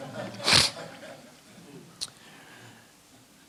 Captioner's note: laughter